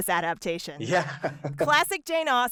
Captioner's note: laughter